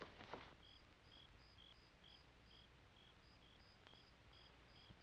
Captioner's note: crickets chirping